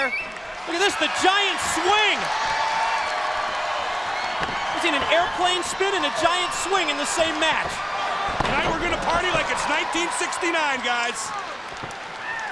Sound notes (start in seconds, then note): 2.5 crowd chatter